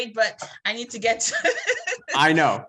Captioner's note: laughs